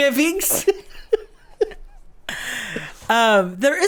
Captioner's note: laughs